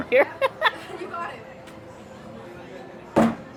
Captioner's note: laughs